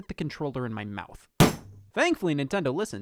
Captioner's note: loud Bang